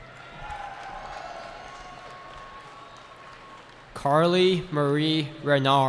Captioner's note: cheering